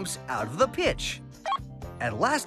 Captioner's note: beep